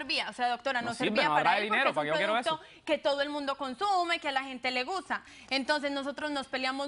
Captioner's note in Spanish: Hablan al unísono